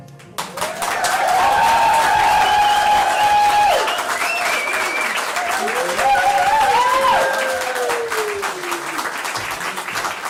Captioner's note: cheering and applause